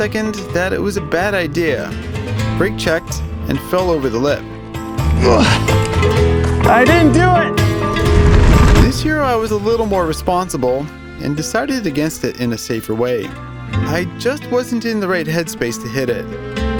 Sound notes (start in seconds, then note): 5.1 grunts